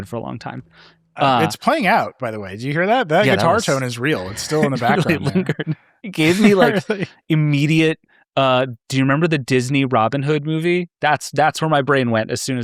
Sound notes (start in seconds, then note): 6.2 laughing